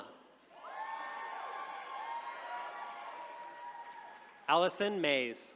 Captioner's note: attendees cheering